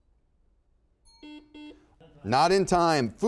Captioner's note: bell rings; buzzer dings